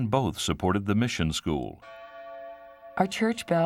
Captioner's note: bell rings